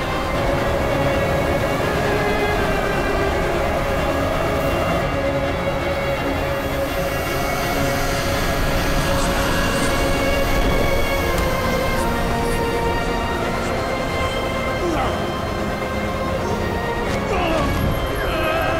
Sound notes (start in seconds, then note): 0.0 wind blowing; 14.0 groaning; 16.8 groaning, screaming